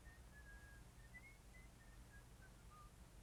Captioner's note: whistling